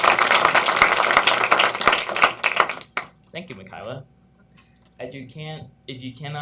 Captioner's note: applause